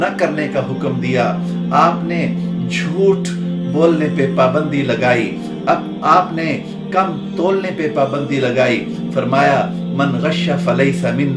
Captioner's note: Arabic